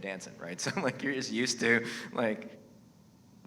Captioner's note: laughs